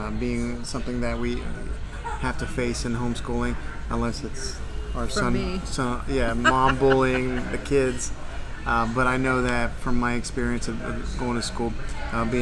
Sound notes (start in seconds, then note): 6.1 laughs